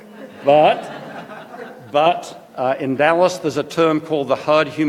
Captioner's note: laughter